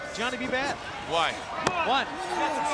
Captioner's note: hands thudding